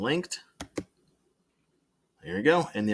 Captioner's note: mouse and Keyboard clicking